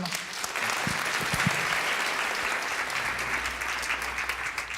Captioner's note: applause